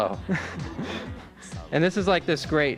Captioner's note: laughs